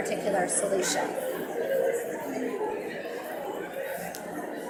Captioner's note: audience mumbling